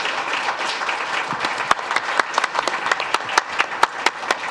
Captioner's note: audience applauds